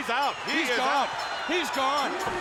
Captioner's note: bell ringing